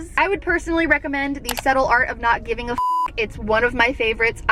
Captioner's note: beep